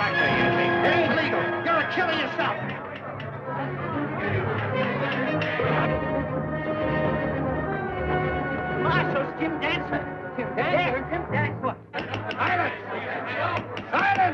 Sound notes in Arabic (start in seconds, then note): 0.3 موسيقى درامية; 3.3 صخب الحشد; 6.0 موسيقى درامية; 12.0 ضربات المطرقة